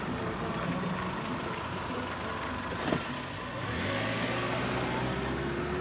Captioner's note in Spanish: Sonido del motor